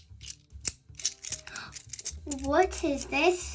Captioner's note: gasps